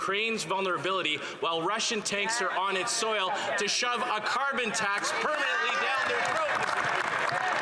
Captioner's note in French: voix de l'interprète